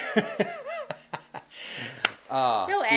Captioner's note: laughing